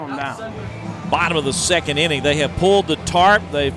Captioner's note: voiceover